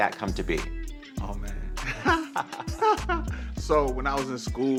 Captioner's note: laughter